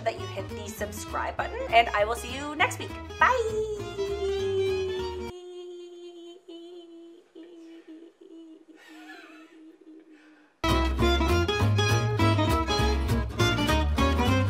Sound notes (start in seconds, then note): 8.1 man laughs in background; 10.6 cheery music